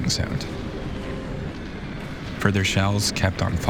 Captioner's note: bombs whistling